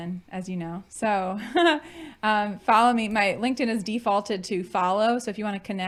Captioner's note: chuckling